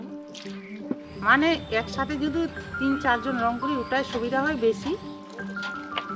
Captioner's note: speaking foreign language